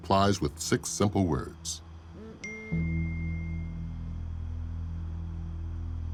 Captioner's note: ding